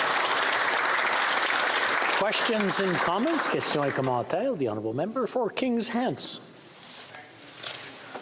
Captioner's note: some Applause